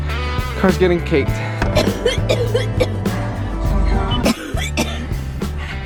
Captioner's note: coughing